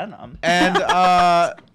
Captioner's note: laughing